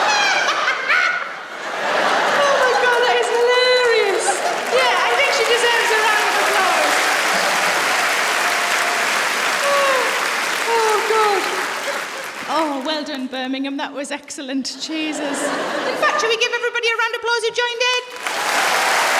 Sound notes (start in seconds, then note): 0.0 laughs; 4.1 applause; 8.2 applause